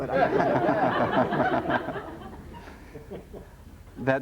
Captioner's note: laughter